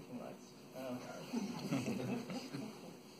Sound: laughter

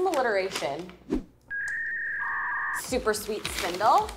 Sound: loading sound effect

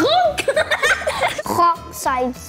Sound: both laugh

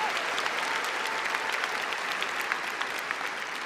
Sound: applause

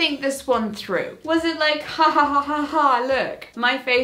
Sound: mimics laughing

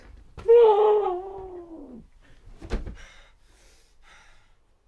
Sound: Shane screaming

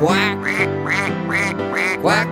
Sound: duck quacking

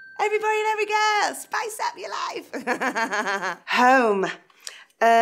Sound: laughs

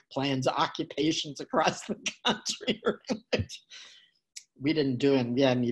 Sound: laughing

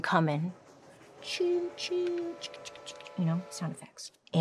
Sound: train whistling; imitating train

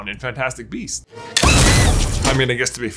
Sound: wand firing; monkey screeching

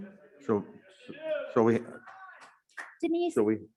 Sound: audience cheering

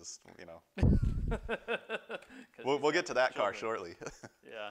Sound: laughter

